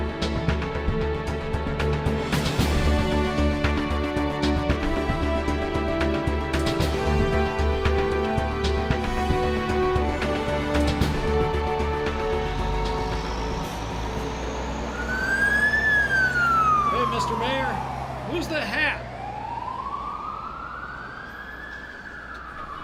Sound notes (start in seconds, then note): 15.0 fire engine siren